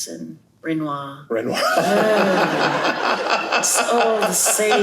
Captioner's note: laughter